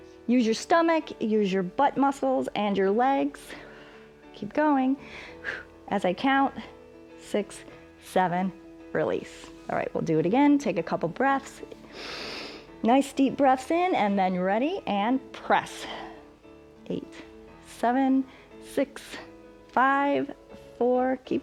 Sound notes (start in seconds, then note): 11.8 inhales